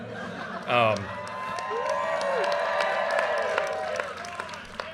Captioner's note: audience cheers and applause